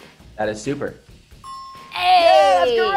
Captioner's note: dinging noise